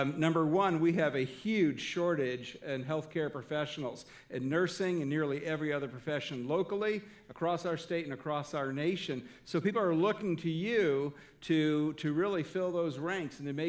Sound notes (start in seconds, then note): none